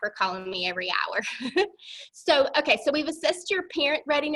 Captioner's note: laughter